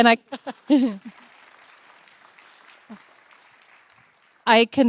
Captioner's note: participants applauding